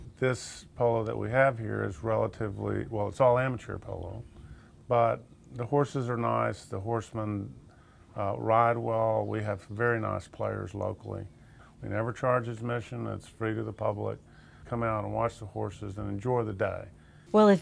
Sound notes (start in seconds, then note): none